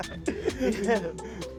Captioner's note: laughing